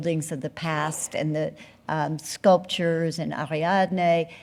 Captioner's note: speaking french